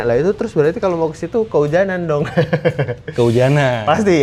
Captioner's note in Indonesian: tertawa